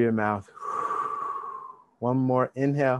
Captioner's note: exhale deeply